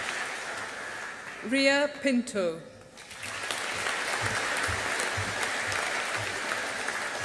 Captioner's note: audience applauding